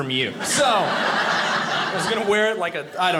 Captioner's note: audience laughing